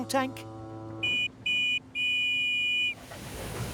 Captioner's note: whistle toots